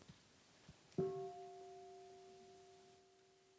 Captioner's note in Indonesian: Mengundang bunyi genta